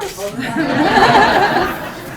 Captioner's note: laughter